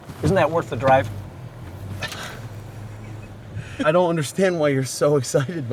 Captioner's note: laughter